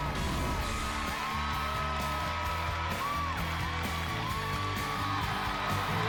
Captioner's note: crowd chanting "dr. phil!"; cheering and applause